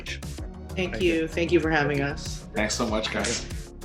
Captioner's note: laugh